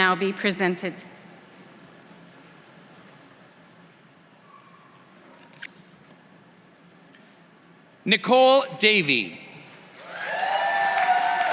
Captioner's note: applause